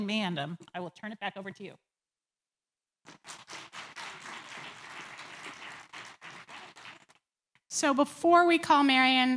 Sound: applause

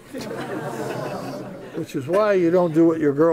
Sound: laughter

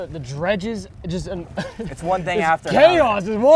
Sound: laughing

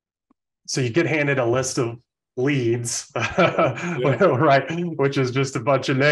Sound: laughs

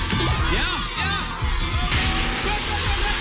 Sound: alarm sounds

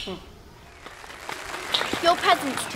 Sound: clapping

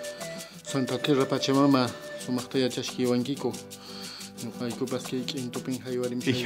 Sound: speaks Quechua

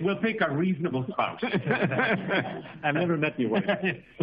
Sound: laughter

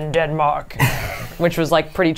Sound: laughs

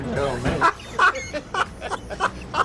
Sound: laughs

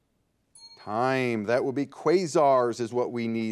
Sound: bell dings

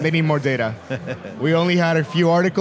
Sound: laughing

